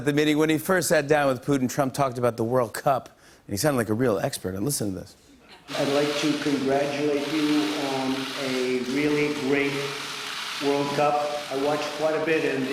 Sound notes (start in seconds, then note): 8.5 camera shutters clicking